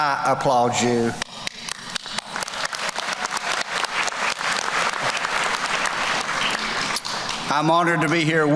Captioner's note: clapping/Applause